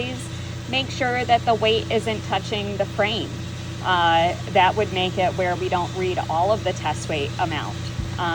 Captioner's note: conveyor